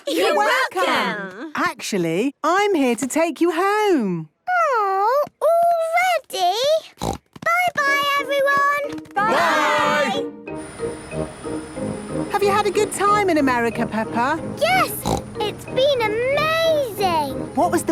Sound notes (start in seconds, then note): 6.9 snort